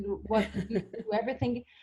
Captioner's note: laughing